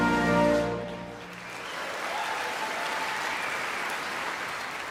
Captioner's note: audience applauding